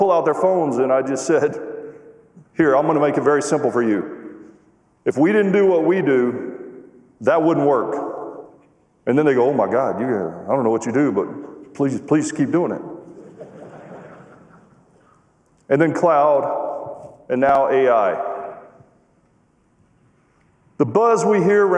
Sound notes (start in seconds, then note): 7.3 laughter